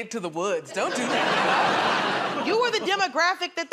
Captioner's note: laughter